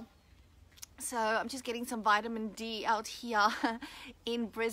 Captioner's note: laughs